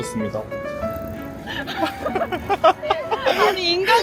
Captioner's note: laughter